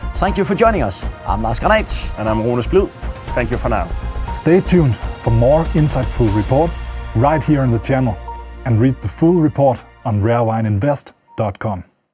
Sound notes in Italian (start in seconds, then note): 11.3 in italiano